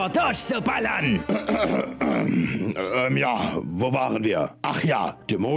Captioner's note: clears throat